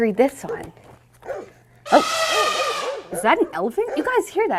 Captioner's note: elephant trumpet